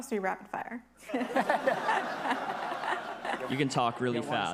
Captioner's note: attendees laughing